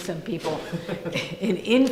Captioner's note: laughing